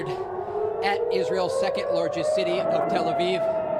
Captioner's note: siren